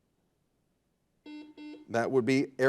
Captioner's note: buzzer buzzes